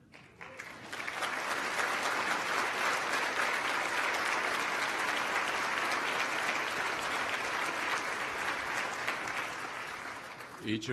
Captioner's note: applause